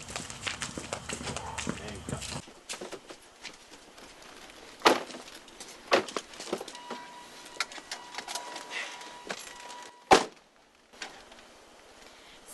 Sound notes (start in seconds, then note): 0.2 car doors; 4.2 chime